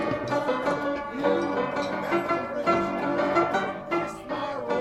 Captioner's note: people chattering